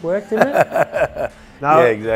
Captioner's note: laughs